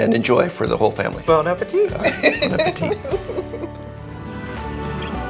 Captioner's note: laughs; upbeat music